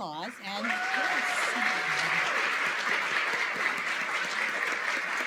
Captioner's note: applause